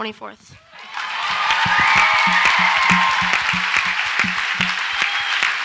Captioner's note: audience applauds and cheers